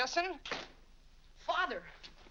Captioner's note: door closes